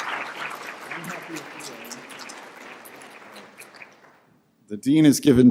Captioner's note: clapping